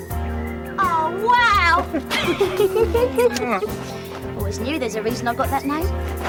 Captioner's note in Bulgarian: ALL смее се